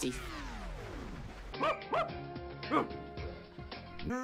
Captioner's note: dog barks